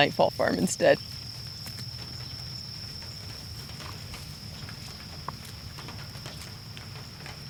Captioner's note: crickets chirping; rain pattering